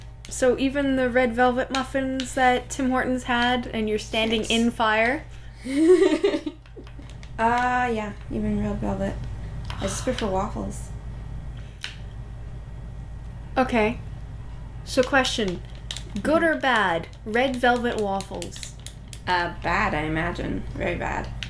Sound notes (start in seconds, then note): 5.6 laughter; 9.4 exhale